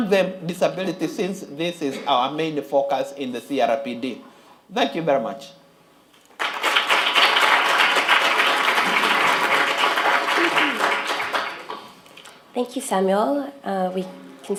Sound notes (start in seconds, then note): 6.3 applause